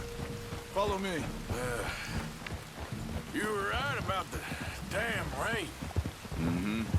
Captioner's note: grunts